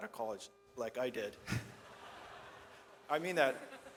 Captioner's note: audience laughs